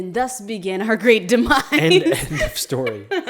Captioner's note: laughs